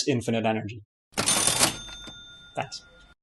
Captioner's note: ka-ching!